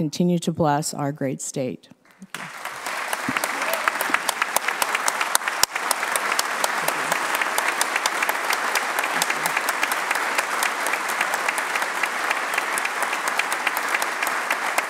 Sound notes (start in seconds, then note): 2.0 applause